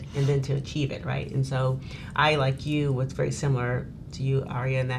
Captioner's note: none